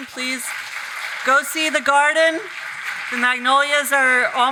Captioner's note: audience applauding